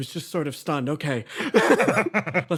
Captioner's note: laughs